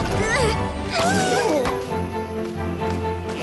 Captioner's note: groan